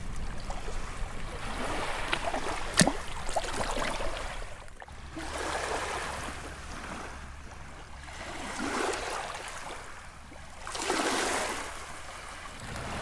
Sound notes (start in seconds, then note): 5.6 waves lapping